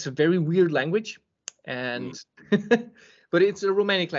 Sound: laughs

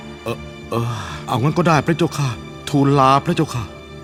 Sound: sigh

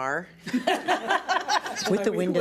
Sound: everybody laughs

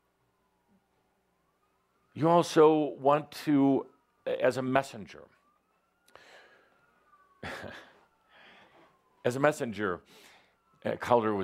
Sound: Adamus chuckles as sirens are heard in the distance

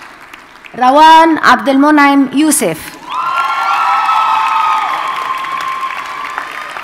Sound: audience cheers and applauds

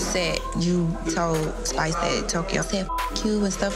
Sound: beep

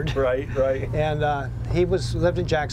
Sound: laughs

